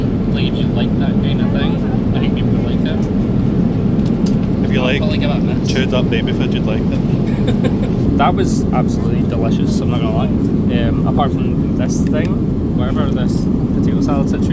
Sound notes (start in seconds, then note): 5.8 laughs